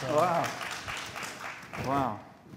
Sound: applause

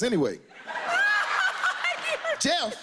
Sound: laughs

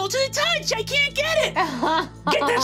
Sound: laughing

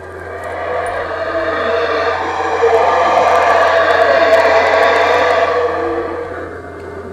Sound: howler Monkeys LOUD

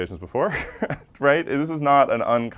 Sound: laugh

